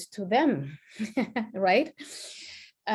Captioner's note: chuckles